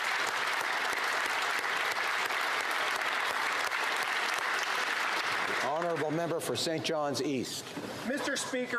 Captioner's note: applause